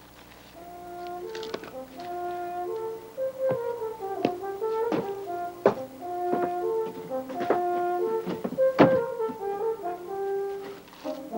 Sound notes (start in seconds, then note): 0.3 light music; 3.9 footsteps thumping; 8.5 wood thudding